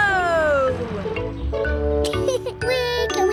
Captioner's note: laughs